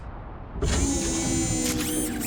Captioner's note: whirring